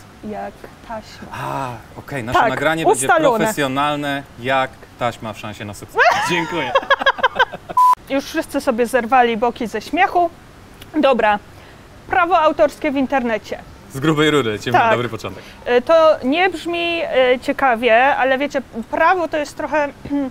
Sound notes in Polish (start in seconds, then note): 6.0 śmiech